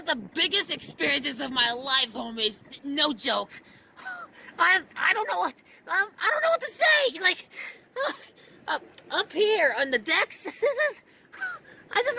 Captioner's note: breathes with excitement